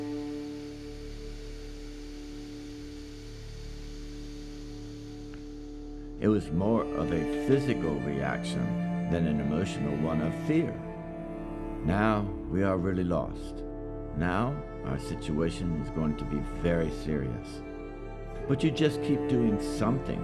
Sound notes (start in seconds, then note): 0.0 water hissing